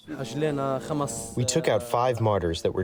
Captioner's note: through translator